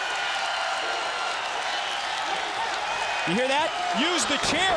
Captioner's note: crowd cheering